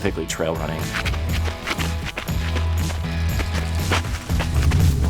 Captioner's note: crunching